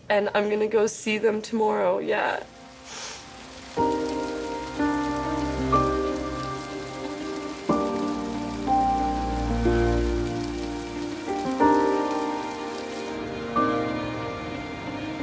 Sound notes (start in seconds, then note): 3.8 pensive piano music; 3.8 rain pattering